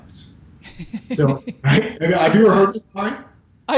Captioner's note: laughing